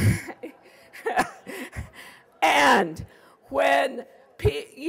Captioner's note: laughing